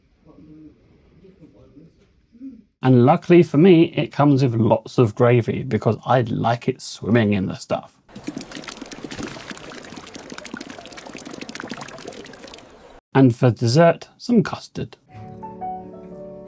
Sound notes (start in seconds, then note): 8.1 plopping gravy noise; 15.1 happy Music